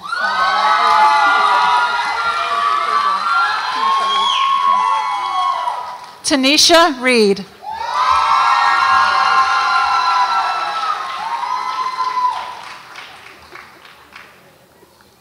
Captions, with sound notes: (audience applauds and cheers) Tinesha Reed. (audience applauds and cheers)